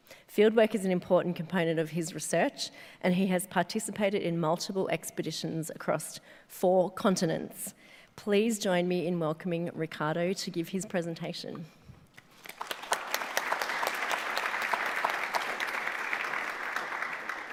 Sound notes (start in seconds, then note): 12.3 audience applauding